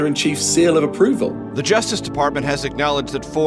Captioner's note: soundbite of archived recording